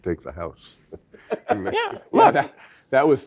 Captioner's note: laugh